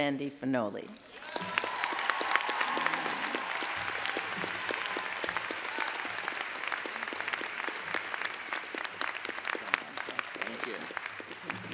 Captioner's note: applause